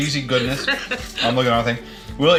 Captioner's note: laughter